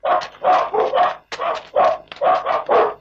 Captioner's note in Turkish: Köpek havlamaları